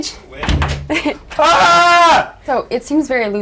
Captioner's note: laughs; Hartman screams